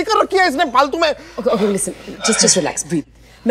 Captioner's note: Panting